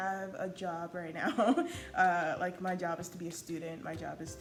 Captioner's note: laughs